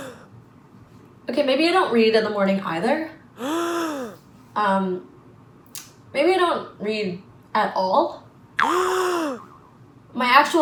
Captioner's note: gasp; gasp; gasp